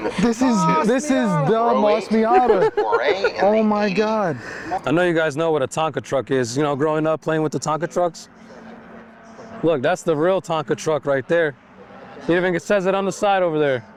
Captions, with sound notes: This is the MOSS Miata. [LAUGHTER] Oh, my god. I know you guys know what a Tonka truck is, you know, growing up, playing with the Tonka trucks. Look, that's the real Tonka truck right there. You think it says it on the side over there?